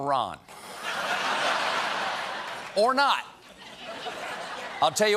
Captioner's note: laughter